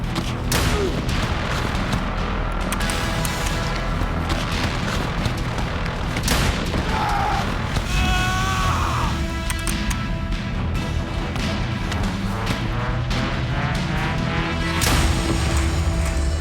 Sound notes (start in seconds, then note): 6.0 gunshot; 6.8 screams; 14.6 audio logo; 16.1 upbeat music